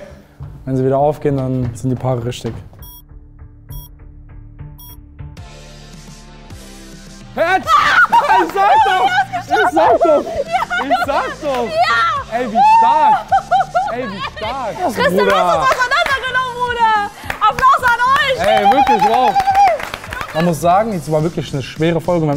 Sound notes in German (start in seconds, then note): 2.8 Countdownpiepsen; 5.3 Freudige Musik; 7.6 Freudige Schreie; 13.0 Freudiges Lachen; 17.5 Jubellaute